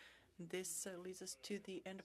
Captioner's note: speaking French